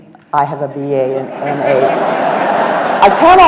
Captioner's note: audience laughs